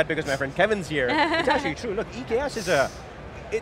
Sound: laughs

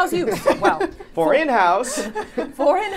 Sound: laughing

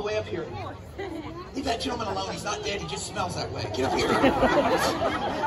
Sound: crowd laughing

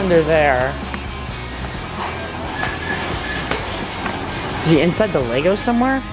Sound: garage door opening

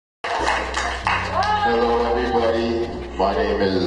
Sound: clapping

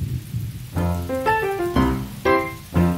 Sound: rain swishes; thunder rumbles; bright music

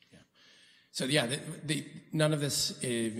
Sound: quietly

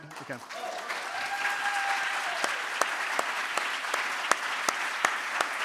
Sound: audience cheering and applauding

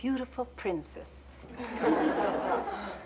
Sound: laughter

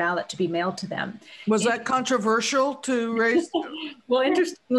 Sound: laughter

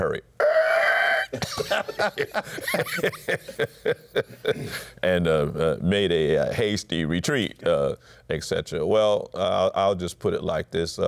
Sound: laughter

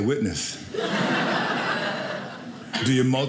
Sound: audience laughing

